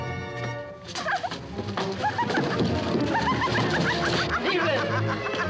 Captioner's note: woman laughing hysterically